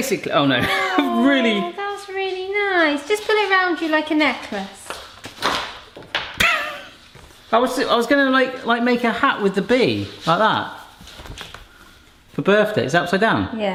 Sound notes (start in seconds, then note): 5.7 fabric clattering; 6.4 laughing